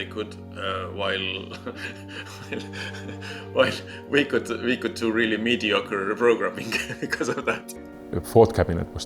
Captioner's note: laughs